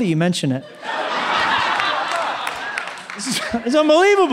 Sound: laughter

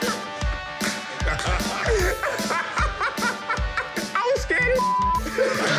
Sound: laughing; laughter

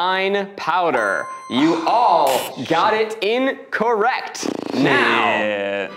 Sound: buzzer ringing

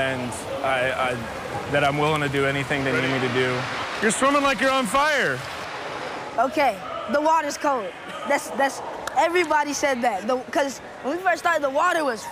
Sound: splashing

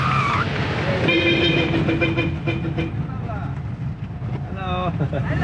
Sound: horn honking; chuckles

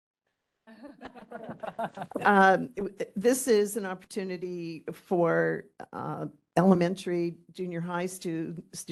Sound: laughing

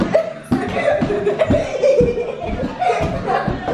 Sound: giggles

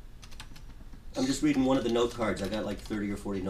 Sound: voiceover

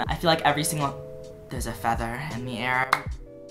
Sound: clap

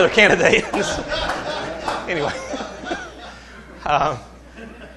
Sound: laughter

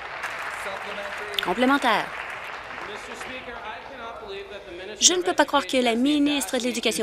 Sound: applause

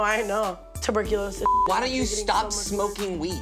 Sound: beep

